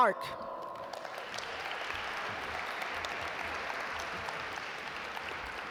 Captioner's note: audience applaud